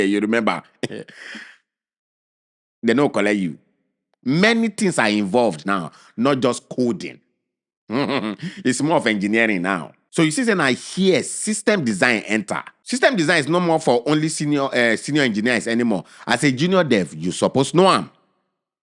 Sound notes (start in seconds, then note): 0.8 chuckles; 7.9 chuckles